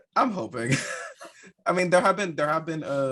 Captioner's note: laughing